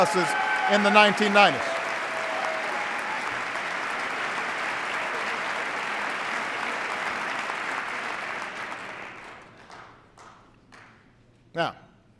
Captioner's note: applause